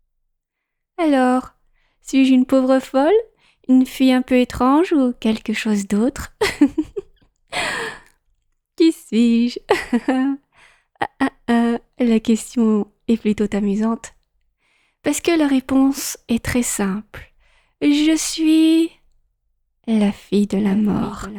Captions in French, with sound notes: Alors, suis-je une pauvre folle ? Une fille un peu étrange ou quelque chose d'autre ? [rires] Qui suis-je ? La question est plutôt amusante parce que la réponse est très simple. Je suis la fille de la mort.